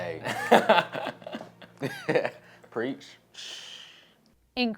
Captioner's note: laughter